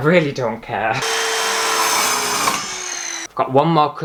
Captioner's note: loud Scary Power Saw Sounds